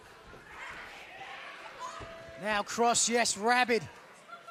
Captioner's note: crowd chatter